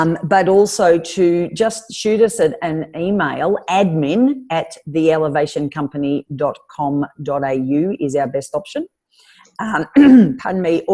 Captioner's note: clears throat